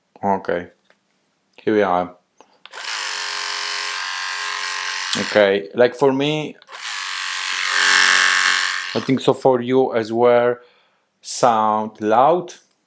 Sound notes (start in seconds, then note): 2.6 razor buzzing; 6.6 razor buzzing